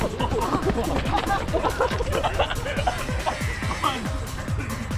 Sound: laughs

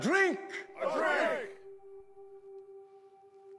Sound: crowd

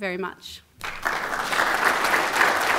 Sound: applause

